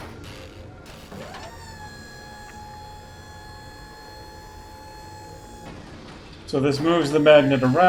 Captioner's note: mechanical whirring